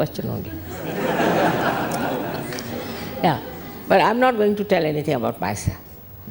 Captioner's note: all laugh